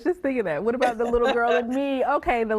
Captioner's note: laughs